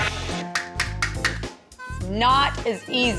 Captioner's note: hammering